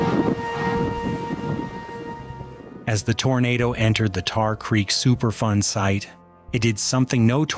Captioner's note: siren wailing; wind blowing